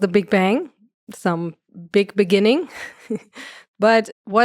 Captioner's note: chuckles